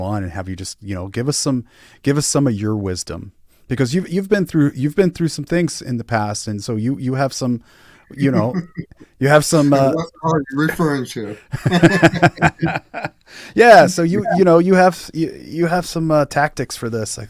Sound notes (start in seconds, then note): 11.2 both laughing